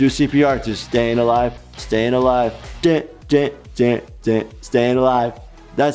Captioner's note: mimics beat